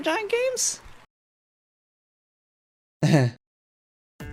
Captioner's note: nervous Laughter